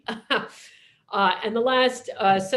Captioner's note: laughs